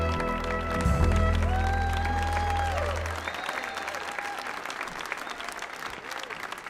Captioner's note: audience applauding and cheering